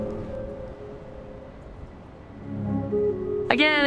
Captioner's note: music fades; distant jets